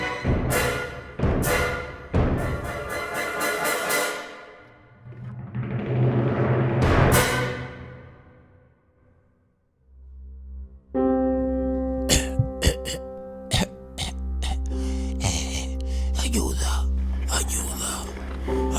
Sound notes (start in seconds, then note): 14.8 cough